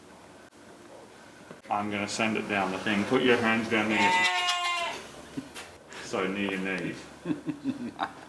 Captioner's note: goAtSoUnDs